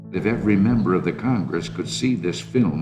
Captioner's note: soundbite of archived recording